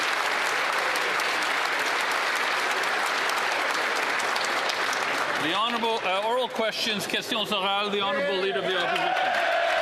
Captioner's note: applause